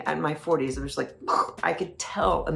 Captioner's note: imitates explosion